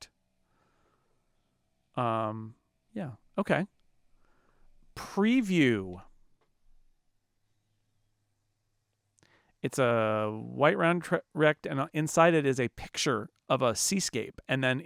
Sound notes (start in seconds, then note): 5.9 silence